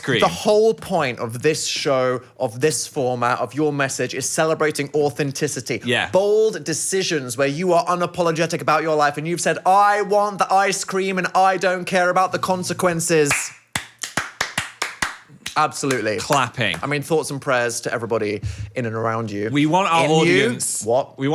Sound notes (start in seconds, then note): 13.2 both clapping